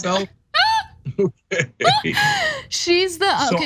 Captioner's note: laugh